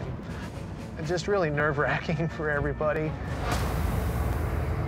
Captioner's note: laughing